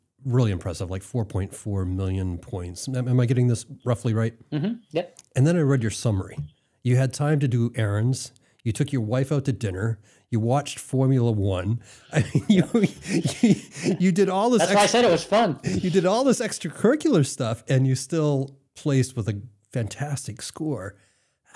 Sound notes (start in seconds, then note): 12.0 chuckling